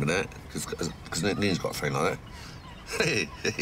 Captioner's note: laughs